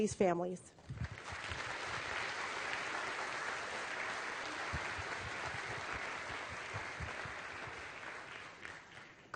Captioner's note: applause